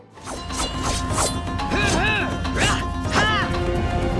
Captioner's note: grunting